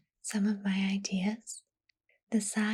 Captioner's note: none